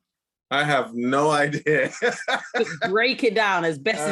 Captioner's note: laughing